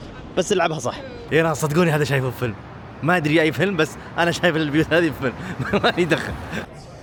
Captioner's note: laughs